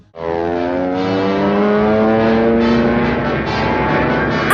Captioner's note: airplane takeoff noises